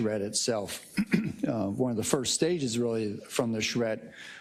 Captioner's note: cough